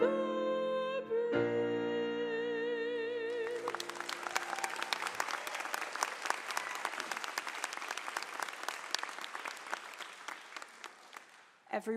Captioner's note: applause